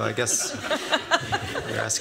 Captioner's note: laughter